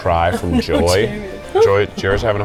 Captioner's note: laughing